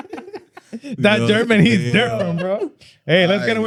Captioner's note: laughing